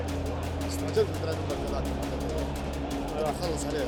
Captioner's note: in Arabic